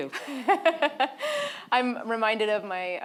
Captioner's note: laughing